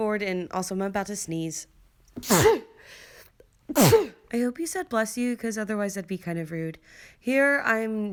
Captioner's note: two sneezes